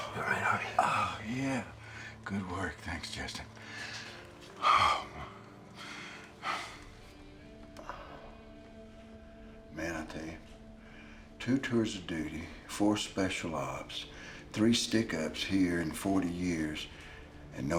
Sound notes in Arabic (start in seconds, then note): 3.6 تنهد